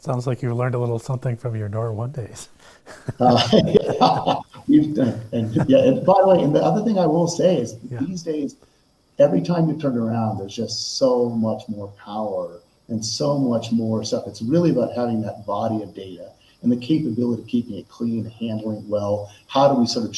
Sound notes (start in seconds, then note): 2.8 laughing